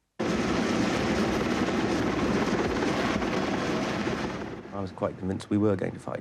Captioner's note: helicopter engine rumbling